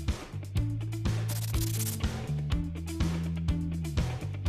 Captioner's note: scratching